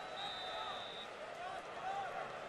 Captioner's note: whistle blows